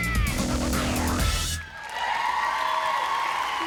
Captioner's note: applause